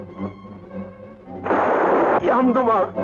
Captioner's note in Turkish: Tüfek sesi